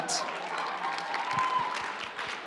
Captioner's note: applause